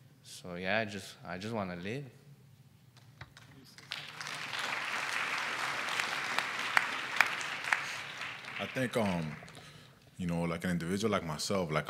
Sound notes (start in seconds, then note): 3.6 applause